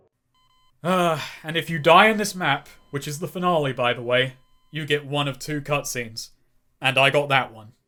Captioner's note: sigh